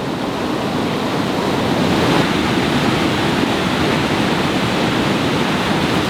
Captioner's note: loud sound of rapids